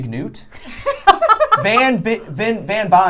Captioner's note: laughing